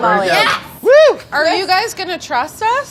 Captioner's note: cheering